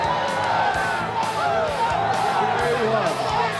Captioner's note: crowd chatter